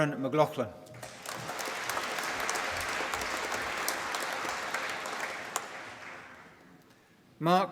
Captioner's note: applause